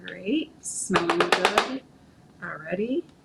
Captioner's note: spoon banging